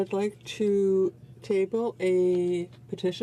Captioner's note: speaking French